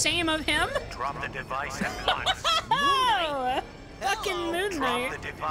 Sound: laughing

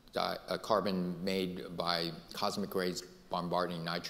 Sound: none

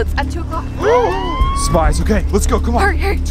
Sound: police sirens

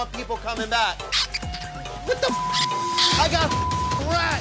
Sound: rats squeaking; beep

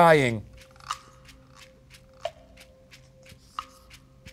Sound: timer ticking

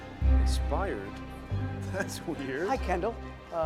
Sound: chuckles

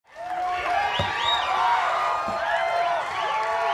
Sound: audience cheering

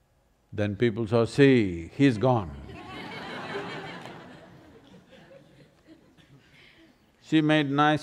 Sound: laughter

